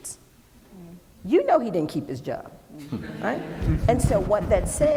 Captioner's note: laughing